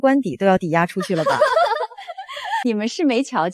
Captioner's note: laughter